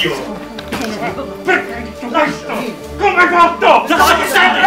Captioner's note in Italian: urla confuse